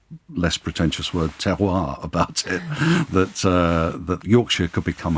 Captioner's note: chuckling